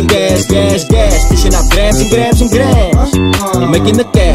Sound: aah aah

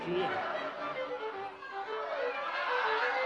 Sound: shouting and laughing

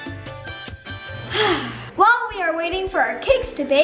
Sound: sigh

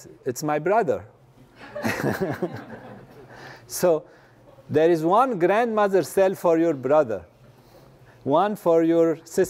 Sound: laugh

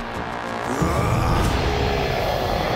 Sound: growling

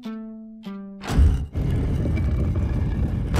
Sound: playing notes; scraping

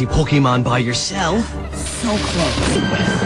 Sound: firecracker explodes; suspenseful music

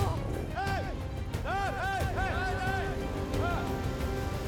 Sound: shouting

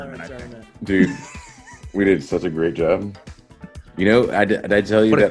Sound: laugh

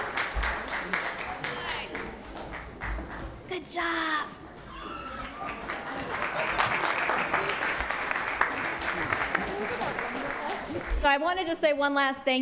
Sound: applause

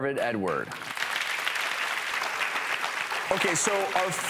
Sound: audience applauses

